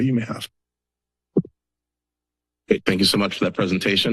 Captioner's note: silence